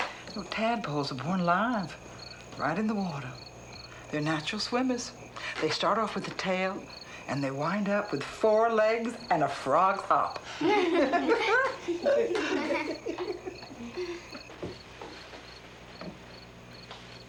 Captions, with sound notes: - You know, tadpoles are born live right in the water. They're natural swimmers. They start off with a tail and they wind up with four legs and a frog hop. (all laughing)